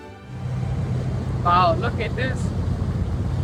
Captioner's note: boat engine whirring